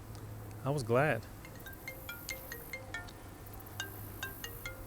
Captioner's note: phone ringing